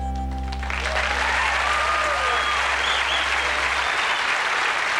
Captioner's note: cheers, applause